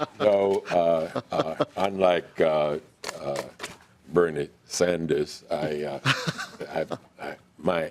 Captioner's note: laughing